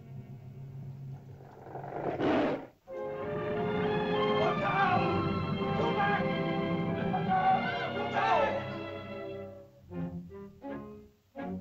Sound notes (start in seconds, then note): 1.1 lizard snarls; 2.8 uplifting music; 4.3 shouting in caveman language; 9.7 dramatic whimsical music